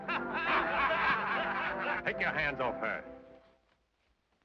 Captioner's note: men laugh